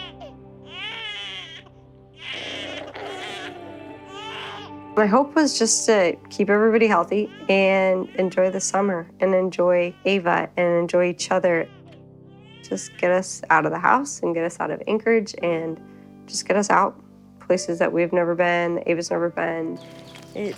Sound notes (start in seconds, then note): 2.1 baby crying